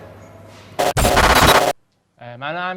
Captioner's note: buzzing noise